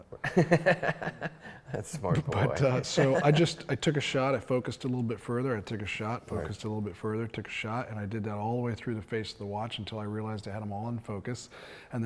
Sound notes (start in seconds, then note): 0.2 laughs; 1.8 mumbles